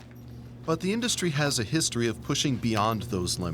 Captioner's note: voiceover